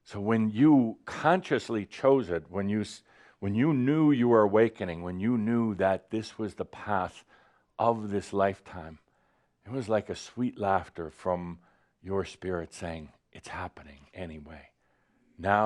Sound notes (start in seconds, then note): none